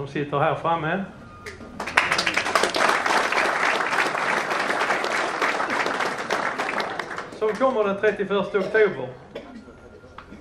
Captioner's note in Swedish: Applåder